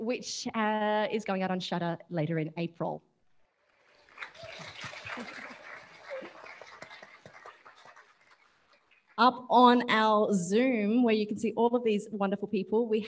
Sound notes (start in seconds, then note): 3.9 audience applauding; 6.1 laughs